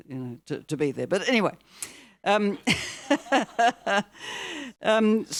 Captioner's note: laughs; audience laughing